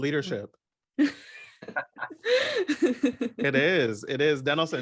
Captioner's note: she laughs